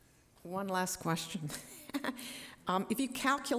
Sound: laughs

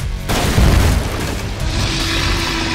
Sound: dinosaur roars; building crashing; dinosaur roars

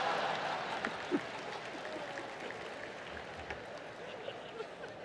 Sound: laughter

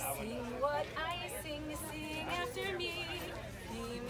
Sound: crowd noise

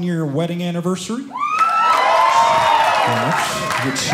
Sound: audience cheering

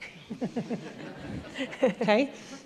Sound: laughter

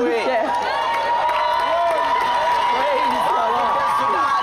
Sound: applause and cheering

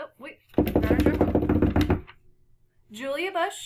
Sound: hands beating

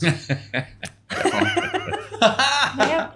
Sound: laughing

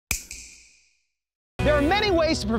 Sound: snap

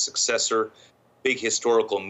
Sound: speaking French

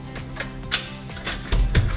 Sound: door beeps

